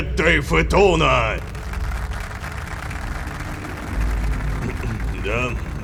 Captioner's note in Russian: Аплодисменты